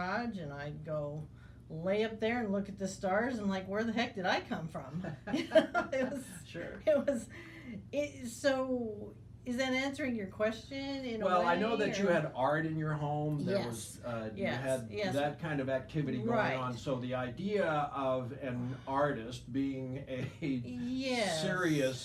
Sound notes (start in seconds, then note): 5.3 laughing